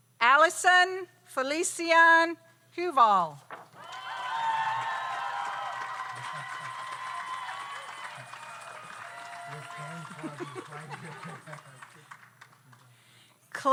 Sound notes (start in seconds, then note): 3.7 audience applauds; 3.7 audience cheers